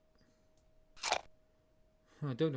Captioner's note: apple munching sound